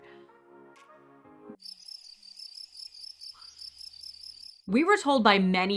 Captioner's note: crickets